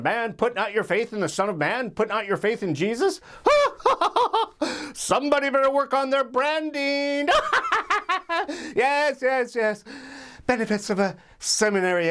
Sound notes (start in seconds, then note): 7.3 laughs